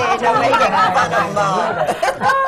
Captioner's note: laughter